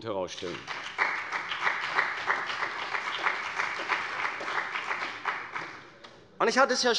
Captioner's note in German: Beifall bei der CDU und dem BÜNDNIS 90/DIE GRÜNEN